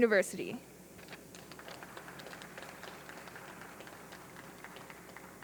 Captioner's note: audience clapping